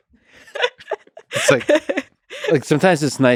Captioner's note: both laughing